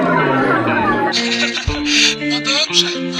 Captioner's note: laugh